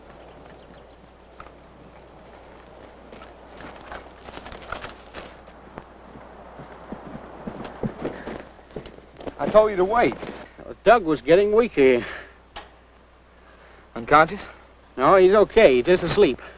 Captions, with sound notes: [footsteps] - I told you to wait. - Doug was getting weaker. - Unconscious? - No, he's okay, he's just asleep.